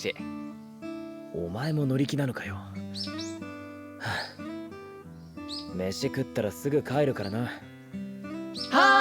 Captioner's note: sigh